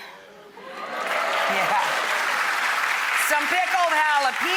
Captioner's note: audience claps